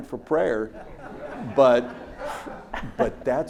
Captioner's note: audience laughs